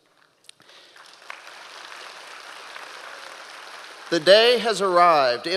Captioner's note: audience applause